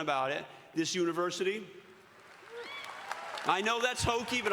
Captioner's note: all cheering